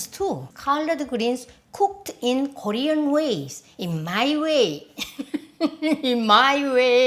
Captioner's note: chuckles